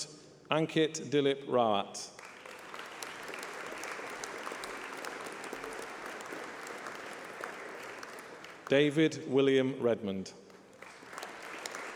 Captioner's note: applause